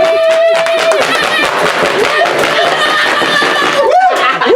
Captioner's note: screams